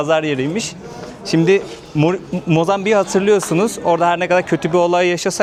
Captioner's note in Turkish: homurdanır